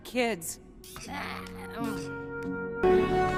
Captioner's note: scoffs